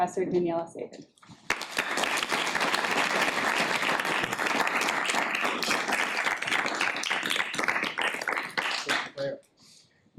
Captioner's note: audience applause